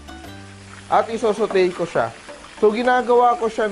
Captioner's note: sizzle